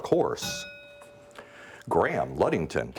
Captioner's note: bell dings